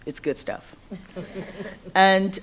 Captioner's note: laughter